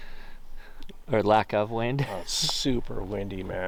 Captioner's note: laughing